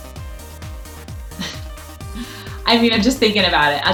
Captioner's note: laughs